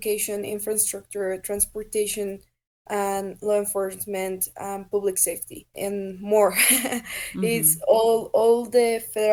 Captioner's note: laughs